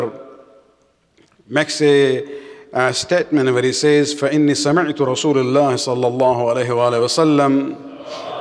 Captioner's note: Arabic